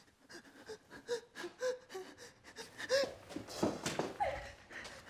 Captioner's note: panting